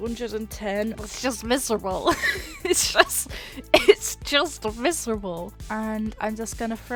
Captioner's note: laughs